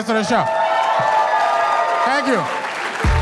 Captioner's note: audience cheers and applauds